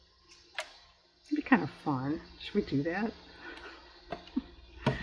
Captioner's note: laughs